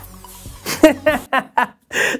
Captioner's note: laughs